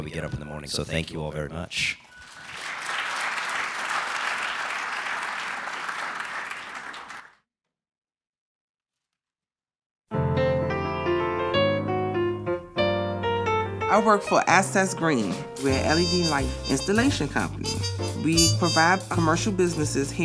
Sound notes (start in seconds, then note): 7.6 applause